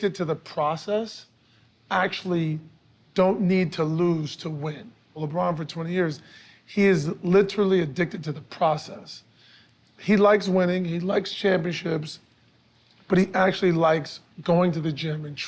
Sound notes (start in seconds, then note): none